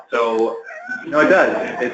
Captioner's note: laughter